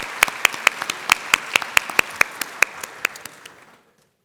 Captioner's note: applause